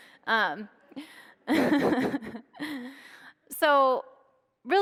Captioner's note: laughing